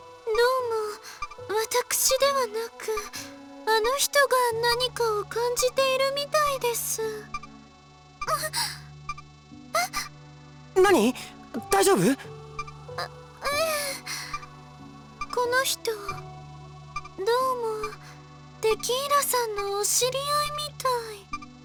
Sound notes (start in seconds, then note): 8.3 pained groan